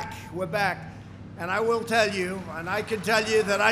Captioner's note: applause